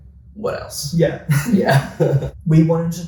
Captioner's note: laughs